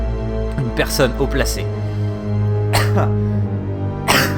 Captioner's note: caughs again